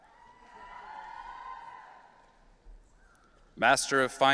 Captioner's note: audience cheering